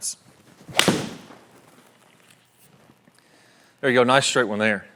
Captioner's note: swing whoosh